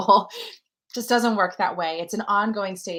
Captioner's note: laughter